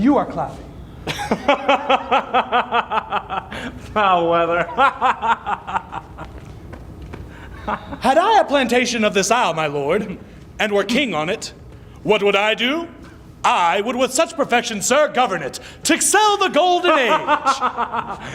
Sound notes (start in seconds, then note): 5.6 laughing